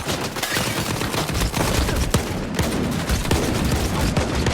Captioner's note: guns firing